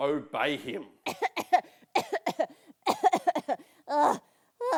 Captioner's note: Rosie coughing